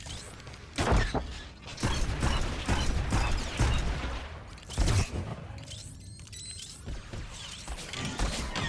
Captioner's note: gunshots